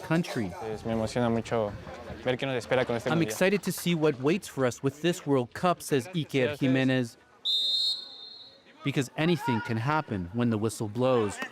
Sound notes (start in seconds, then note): 3.5 speaking alternate language